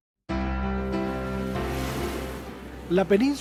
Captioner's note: sound of waves